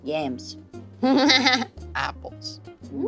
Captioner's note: laughs